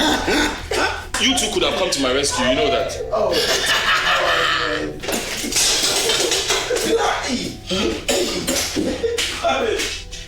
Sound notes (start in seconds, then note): 3.2 laughing continues